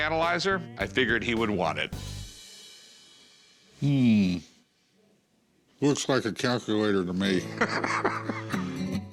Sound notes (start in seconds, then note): 7.4 laughs